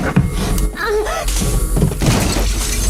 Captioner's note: groaning; objects crashing